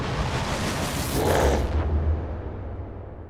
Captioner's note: roars